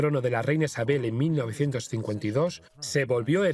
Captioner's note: voiceover